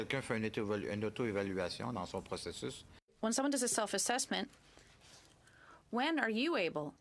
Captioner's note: speaking French